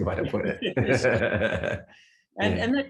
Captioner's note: both laugh